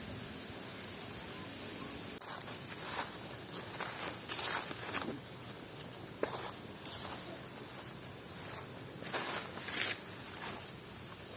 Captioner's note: footsteps tread bush shrub